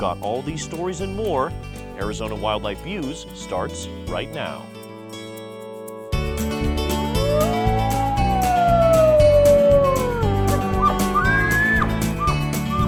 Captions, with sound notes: We've got all these stories and more. Arizona Wildlife Views starts right now. [ wolf howling ] [ elk bugling ]